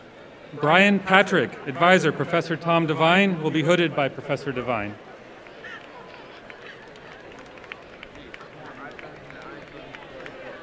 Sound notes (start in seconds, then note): 5.3 applause